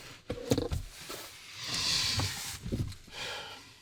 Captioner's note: sighs